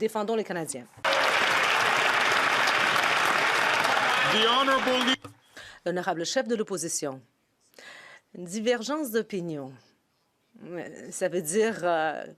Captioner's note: some Applause